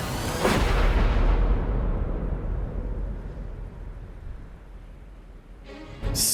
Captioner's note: dramatic music; thunder roars